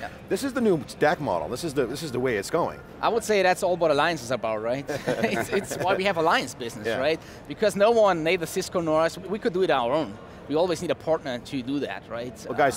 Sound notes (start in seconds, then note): 4.9 laughing